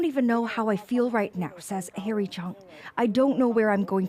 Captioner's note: speaking alternate language